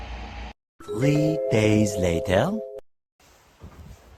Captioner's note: Sound Effect - SpongeBob transition "Three days later"